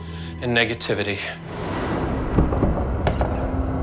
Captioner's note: door rattling